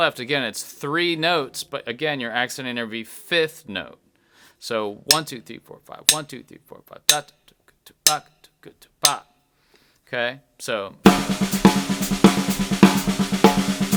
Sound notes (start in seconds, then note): 8.0 sticks tapping; 11.1 drum banging